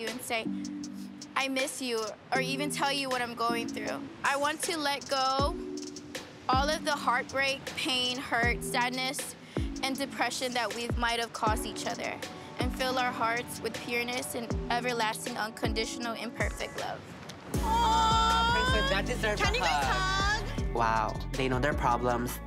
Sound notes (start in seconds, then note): 17.6 cheering